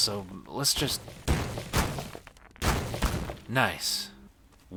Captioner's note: stones scattering; heavy impacts